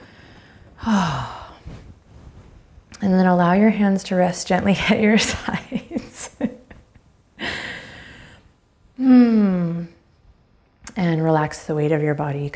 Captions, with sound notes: (sighs) And then allow your hands to rest gently at your sides. (chuckles) Hmm. And relax the weight of your body